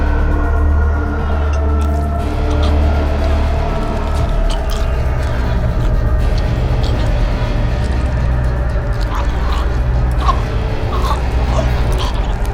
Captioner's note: choking and gurgling